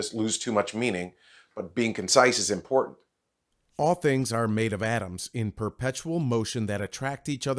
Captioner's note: voice over